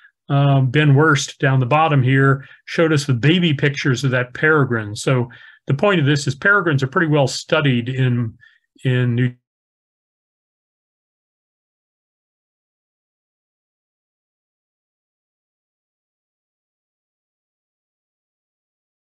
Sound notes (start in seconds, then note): 8.4 microphone fades